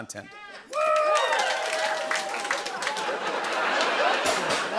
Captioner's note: cheers and applause; rimshot